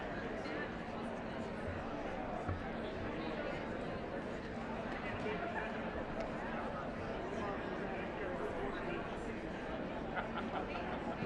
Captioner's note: indistinct chatter